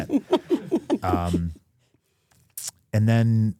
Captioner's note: Steph and Elyse laugh